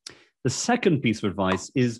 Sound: air popping

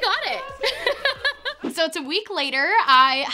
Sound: laughs

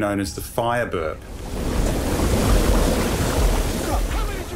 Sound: fire sizzling

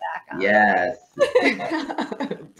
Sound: laughing

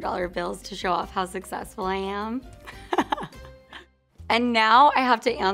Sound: laughing

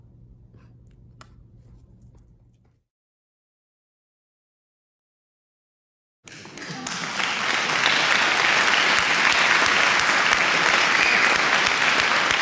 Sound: applause

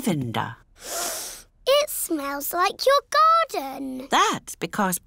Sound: sniffs

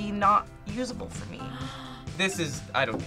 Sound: React gasps

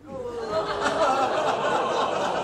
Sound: audience - ooh!; laughter

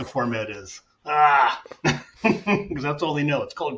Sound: chuckling

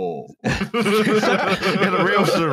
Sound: laughter

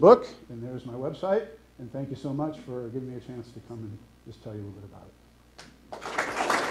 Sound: applause

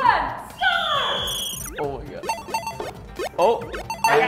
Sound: whistle; beeping

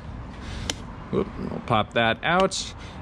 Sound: charge port popping out

